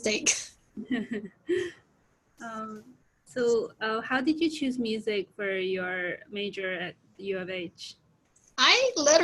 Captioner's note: laughs